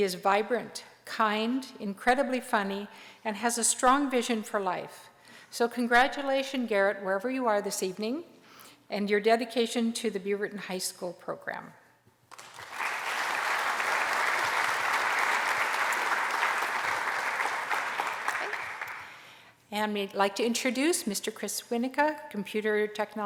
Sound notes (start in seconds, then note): 12.3 applause